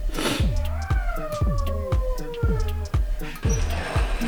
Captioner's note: more whining